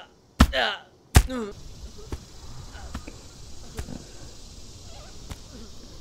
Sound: donovan's grunts continue

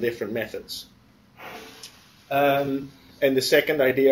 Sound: pause

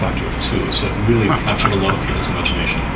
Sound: laughs

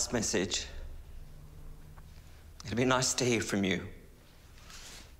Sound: voice trembles

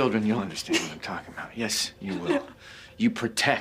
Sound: crying

